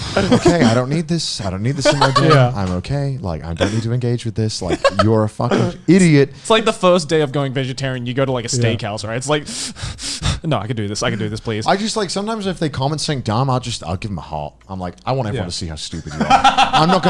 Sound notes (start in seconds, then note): 9.4 breathing heavily